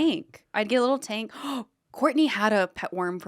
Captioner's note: gasps